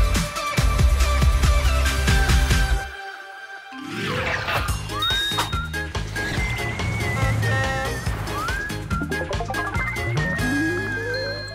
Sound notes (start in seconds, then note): 5.0 bright music; 6.1 horn beeping